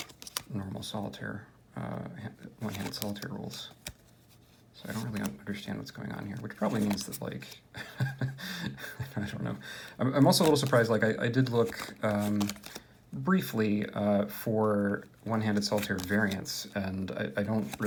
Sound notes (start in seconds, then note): 7.7 heheh